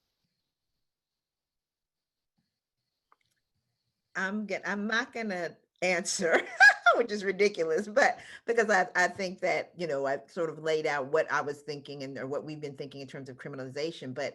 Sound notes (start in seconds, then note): 6.3 laughs